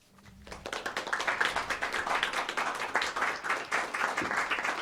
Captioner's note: audience applause